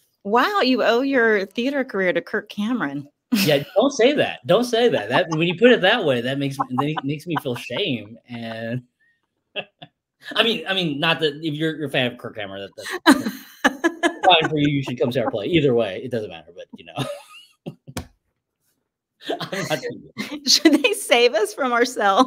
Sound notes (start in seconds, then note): 4.8 laughs; 8.9 laughs; 14.5 laughs; 17.7 laughs